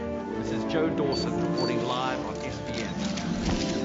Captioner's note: clicking and camera beeps and hums